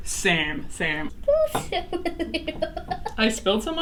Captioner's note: laughs